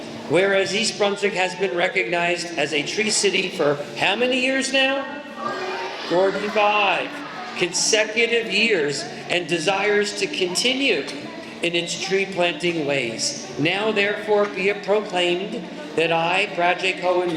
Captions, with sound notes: Whereas, East Brunswick has been recognized as a tree city for how many years now? [Kids scream ‘45!”] 45 consecutive years, and desires to continue in it’s tree planting ways. Now, therefore, be it proclaimed that I, Brad J. Cohen